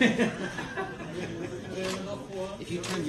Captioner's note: laughter